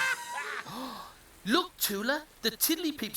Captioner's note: gasps